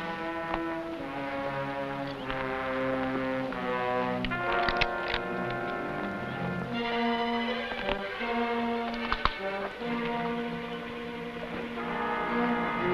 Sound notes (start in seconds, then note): 0.3 tense music; 4.3 rifle cocking; 7.0 tense music